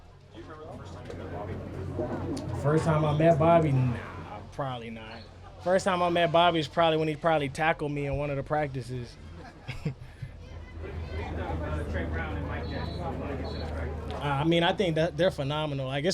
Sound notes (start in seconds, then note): 9.4 laughs